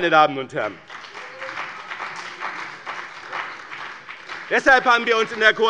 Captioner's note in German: Beifall bei dem BÜNDNIS 90/DIE GRÜNEN und der CDU